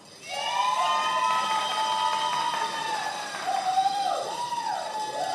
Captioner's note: many applauding